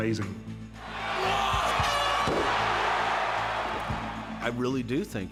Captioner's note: crowd roaring